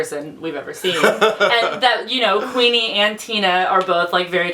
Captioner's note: laughs